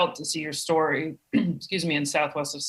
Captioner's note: clearing throat